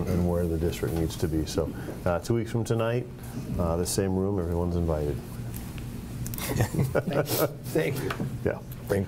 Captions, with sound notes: and where the district needs to be. So, two weeks from tonight, this same room, everyone's invited. (laughing) - Thank you. - Yeah.